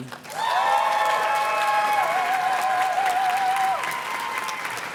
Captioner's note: audience cheers and claps